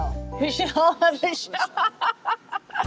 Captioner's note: laughing